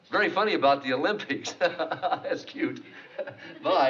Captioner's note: laughs